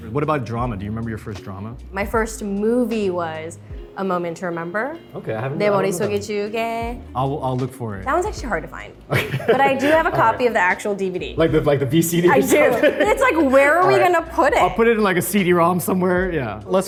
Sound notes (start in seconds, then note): 6.3 Arden speaks Korean; 9.1 laughs; 12.2 laughs